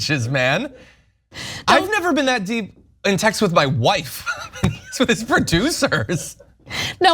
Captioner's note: laugh